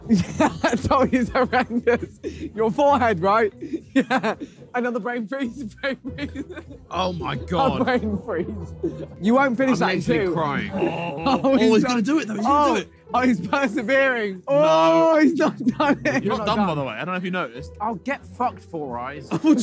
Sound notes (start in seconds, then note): 3.5 laughing